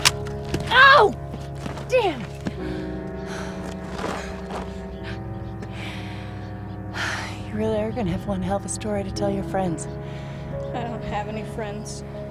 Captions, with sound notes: Ow! Damn. (sighs) You really are gonna have one hell of a story to tell your friends. - I don't have any friends.